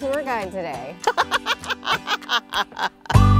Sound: laugh

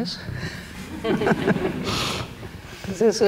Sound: audience laughter

